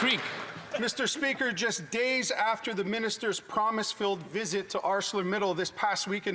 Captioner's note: some Applause